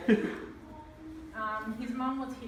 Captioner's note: laughs